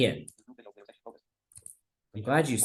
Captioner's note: screen reader narrating extremely rapidly